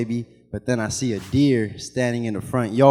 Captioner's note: animation whooshes